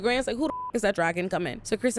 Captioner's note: beep